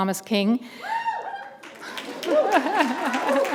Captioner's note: applause